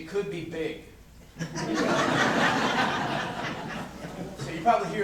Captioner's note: corporate laughter